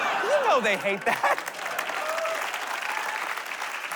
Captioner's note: applause